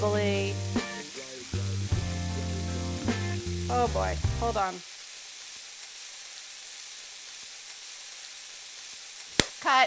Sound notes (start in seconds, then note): 1.9 upbeat music; 5.1 sizzling sounds